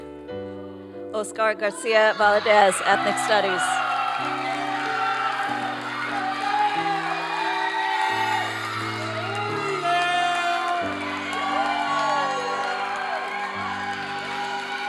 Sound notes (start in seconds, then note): 3.9 applause and cheering